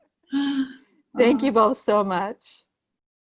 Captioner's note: chuckling